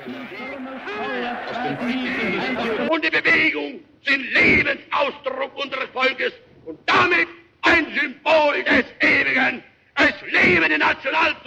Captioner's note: German speech